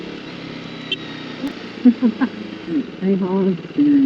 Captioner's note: honk